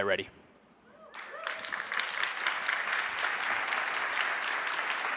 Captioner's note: audience claps